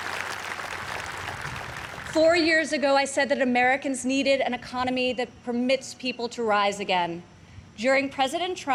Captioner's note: applause